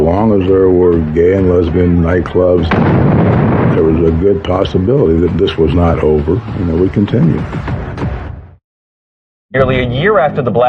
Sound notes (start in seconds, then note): 2.6 exexplososioion